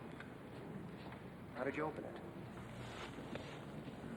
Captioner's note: none